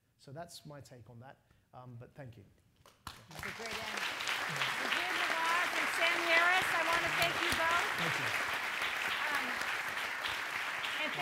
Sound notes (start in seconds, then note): 2.7 applause; 8.1 applause